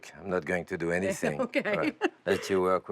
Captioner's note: laughing